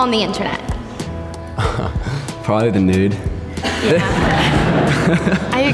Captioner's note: chuckles; laughs